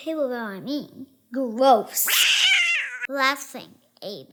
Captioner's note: cat hisses